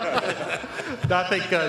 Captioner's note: laughter